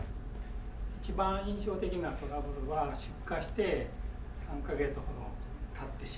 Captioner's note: speaking in foreign language